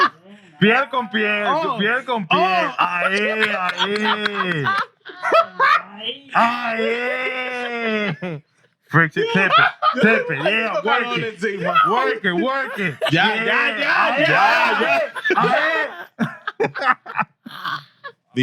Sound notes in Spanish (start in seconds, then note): 1.8 Hablando en idioma extranjero; 1.8 Riendo; 13.2 Hablando en idioma extranjero